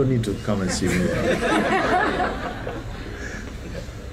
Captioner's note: laughter